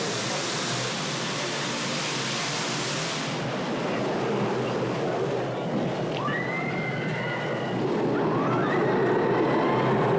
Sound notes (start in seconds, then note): none